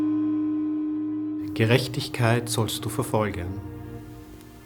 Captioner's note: speaking in German